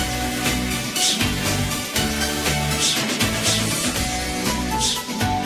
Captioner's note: exhaling forcefully